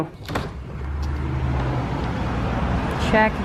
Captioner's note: street noise